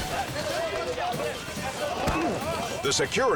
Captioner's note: men chanting